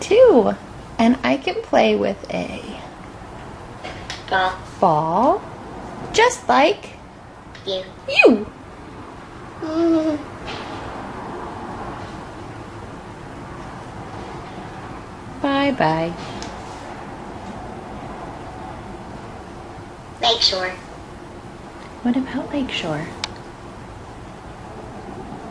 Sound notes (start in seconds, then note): 9.6 baby noises